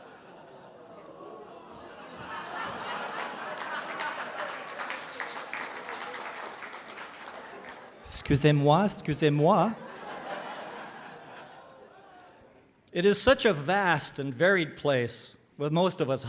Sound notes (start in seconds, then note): 1.6 more laughter and applause; 9.8 laughter